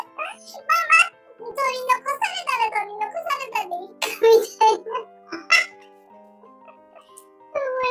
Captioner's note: laughs